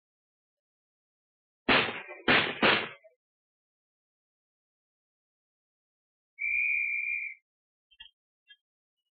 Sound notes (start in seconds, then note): 1.7 gunshots; 6.4 whistle blows